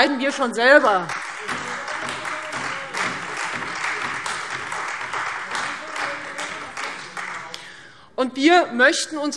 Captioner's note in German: Beifall Freie Demokraten und vereinzelt SPD